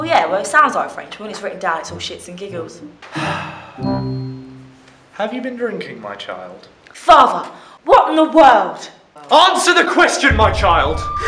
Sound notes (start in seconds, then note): 3.0 sighs